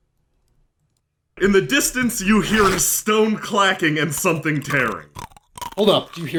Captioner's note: in the distance, you hear stone clacking and something tearing; crunching, chewing